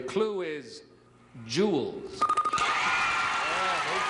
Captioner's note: cheers and applause